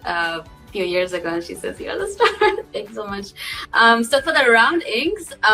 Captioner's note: laughs